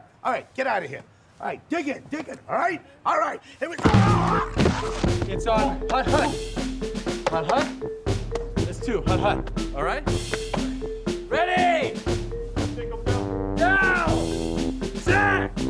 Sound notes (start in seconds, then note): 3.9 groaning in pain; 4.7 upbeat music; 7.7 speaking in foreign language